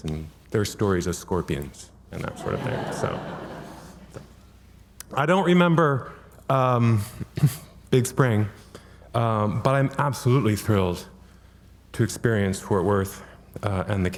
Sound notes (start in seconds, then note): 2.2 audience laughing